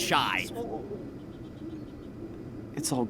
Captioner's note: siren blaring